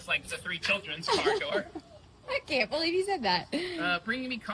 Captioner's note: laughs